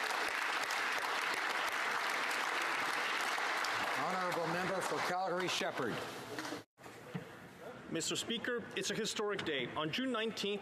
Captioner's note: applause